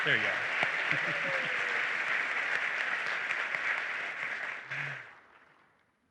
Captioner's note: applause